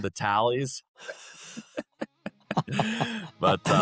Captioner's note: laughing